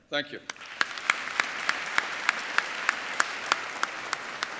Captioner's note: applauding